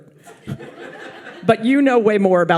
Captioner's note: audience laughs